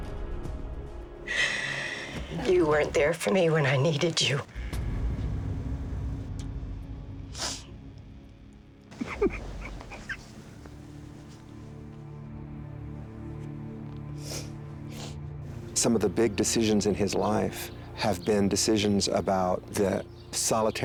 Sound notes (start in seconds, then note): 6.4 sniffs; 8.9 crying